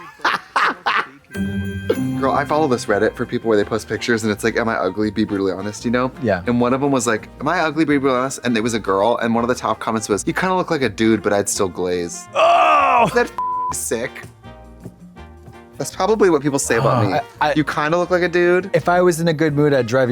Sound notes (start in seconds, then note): 0.0 blonde Women cachinnate; 1.3 festive chime; 12.3 Katya groans; 13.4 beep